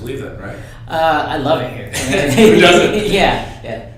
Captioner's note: laughs